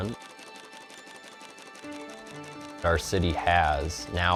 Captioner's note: sewing machine rattling